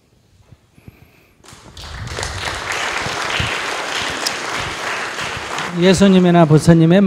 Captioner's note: audience applause